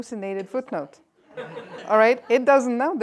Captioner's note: laughter